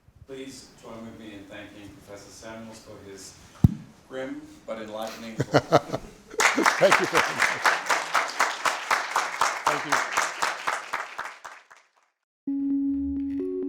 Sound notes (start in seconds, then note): 6.4 audience applause